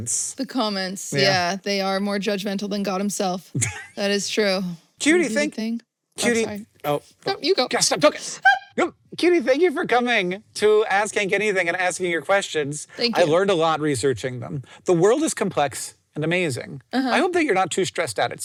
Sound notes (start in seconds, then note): 8.4 squeaks